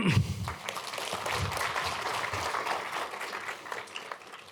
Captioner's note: applause